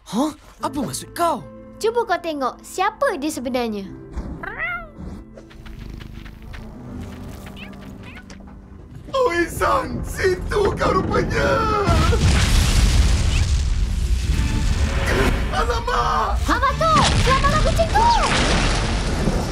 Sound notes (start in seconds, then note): 4.1 purring; 11.2 stone rumbling; 16.9 loud impacts